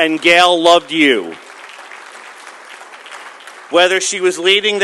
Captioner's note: applause